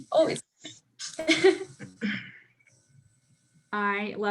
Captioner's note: laughs